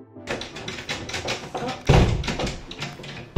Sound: clattering

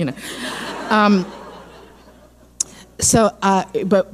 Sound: laughing

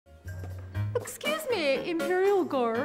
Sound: california accent

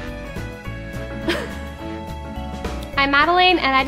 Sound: Madelaine laughs

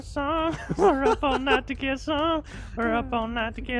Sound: laughs

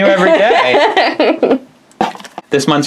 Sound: laughs

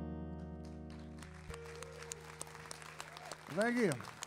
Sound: audience cheering

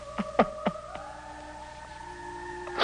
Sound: crying

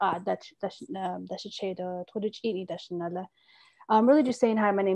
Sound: speaking Indigenous language

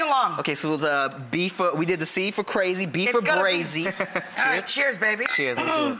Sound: laughs

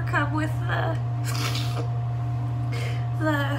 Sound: sniffs

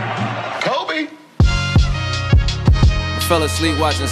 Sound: Crowd chanting Kobe

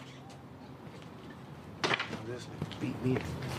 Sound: door slams

